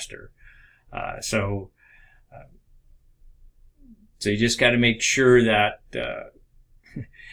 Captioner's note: chuckles